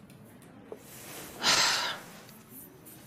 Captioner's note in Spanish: Suspiro